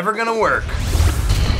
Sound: zapping

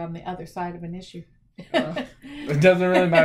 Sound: laughs

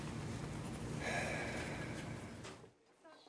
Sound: breathes deeply

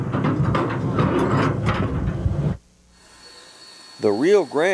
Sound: clanking of blades

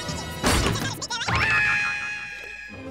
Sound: squeaking; screaming

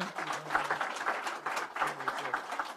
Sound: applause

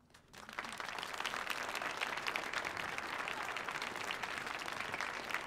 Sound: audience applauding

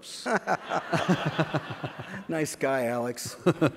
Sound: laughs

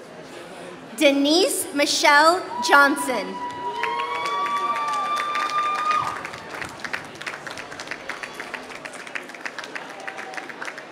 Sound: applause

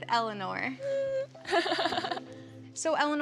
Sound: giggles

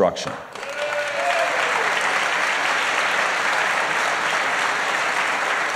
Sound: applause

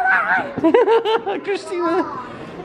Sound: laughing

